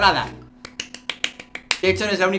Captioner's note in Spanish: aplausos